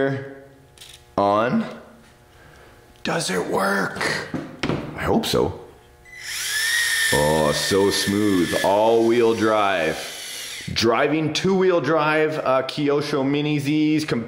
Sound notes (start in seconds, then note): 6.0 motor whirs